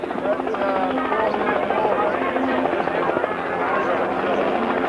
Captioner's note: helicopter sound